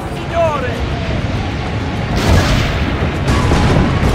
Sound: cannons firing

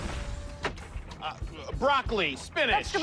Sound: stammers

